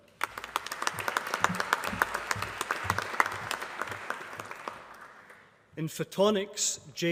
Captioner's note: applause